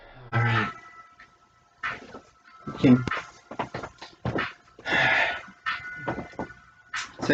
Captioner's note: resuming normal voice; sighs